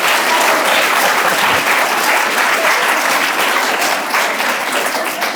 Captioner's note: audience laughing; laughing; audience applauding